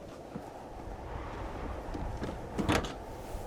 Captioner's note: wind humming